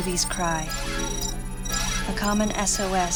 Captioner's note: electronics beeping